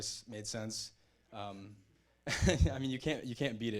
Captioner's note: chuckles